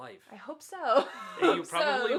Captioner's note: laughs